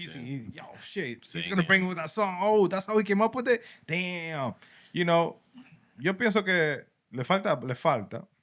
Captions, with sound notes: He's in-- oh, shit. So he's going to bring with that song. Oh, that's how he came up with it. Damn. You know, (Speaking Spanish)